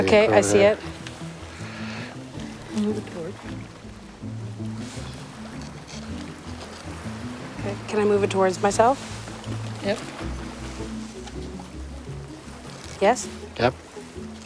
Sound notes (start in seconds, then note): 1.4 quick upbeat music; 3.0 scritching